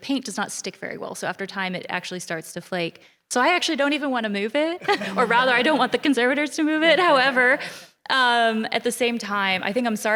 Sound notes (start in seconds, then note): 4.8 laughter